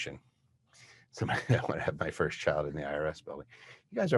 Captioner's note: laughs